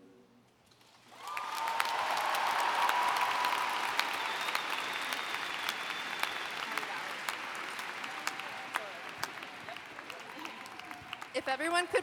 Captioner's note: applauding